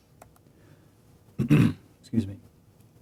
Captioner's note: throat clearing